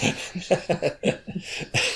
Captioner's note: laughter